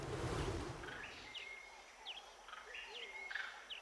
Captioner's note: intermittent bird calls